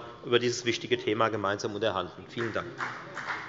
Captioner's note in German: Beifall bei der FDP